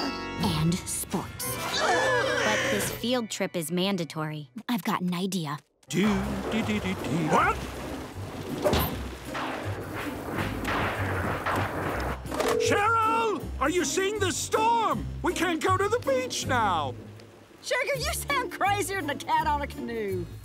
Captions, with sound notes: and sports. [gasping] But this field trip is mandatory. I've got an idea. Do dee dee dee dee. Wha- [thundering] Cheryl, are you seeing the storm?! We can't go to the beach now. Sugar, you sound crazier than a cat on a canoe.